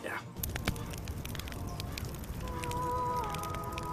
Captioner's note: fire crackles